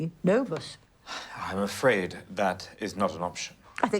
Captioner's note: Jim sighs